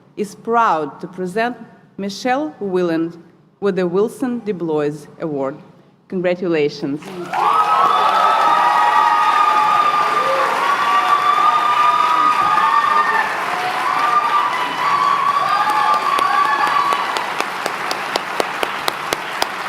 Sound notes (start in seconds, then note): 10.0 applause; 11.0 cheering; 12.9 applause